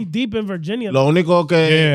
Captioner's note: speaking In Foreign Language